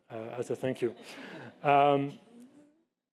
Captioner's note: laughter